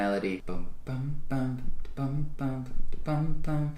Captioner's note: vocalizes